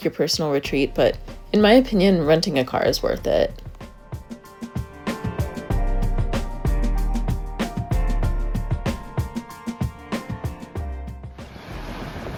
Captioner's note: ocean Sounds